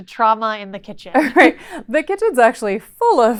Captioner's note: chuckles